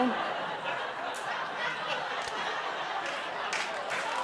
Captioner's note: laughter